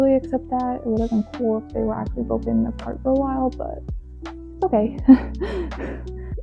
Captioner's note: laughs